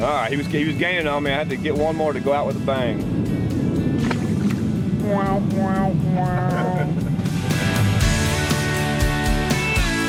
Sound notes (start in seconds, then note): 3.9 splash; 6.3 laughs; 7.4 upbeat music